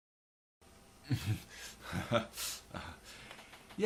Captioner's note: laugh